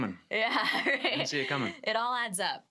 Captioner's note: laughs